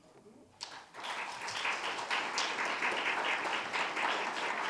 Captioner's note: audience clapping